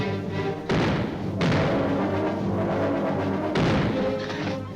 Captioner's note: guns firing; dramatic music